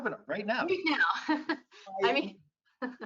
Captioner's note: laughing